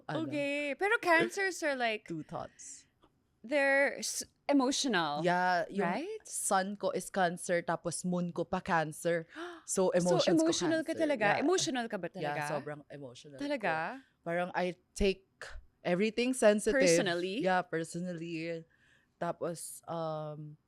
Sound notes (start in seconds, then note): 9.3 gasps